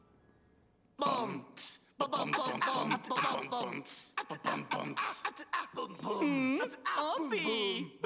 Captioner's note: beat-boxing